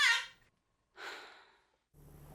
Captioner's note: sighs